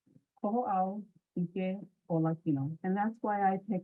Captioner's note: interviewee speaking in foreign language